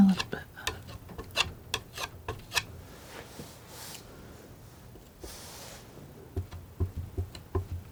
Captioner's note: tapping